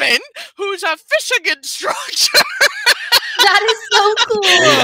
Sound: laughs

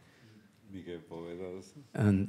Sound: panelists speaking in Spanish

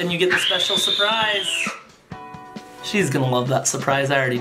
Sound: screams

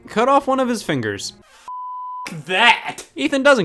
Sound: beep

